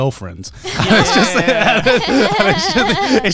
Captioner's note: all laughing